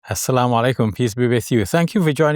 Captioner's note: man speaking in foreign language